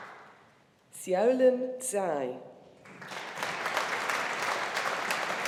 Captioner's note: audience applauding